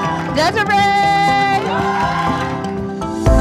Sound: cheering

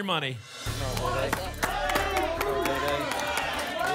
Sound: audience shouting numbers

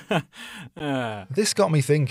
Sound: sarcastic Laugh

